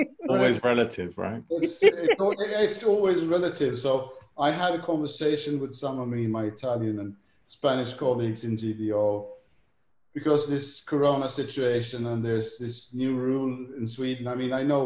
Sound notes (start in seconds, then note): 5.2 laughs